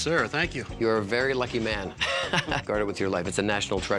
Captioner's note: laughs